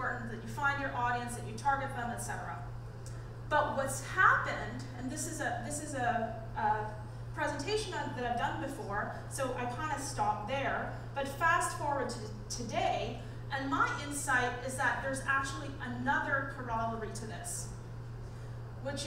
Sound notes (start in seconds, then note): none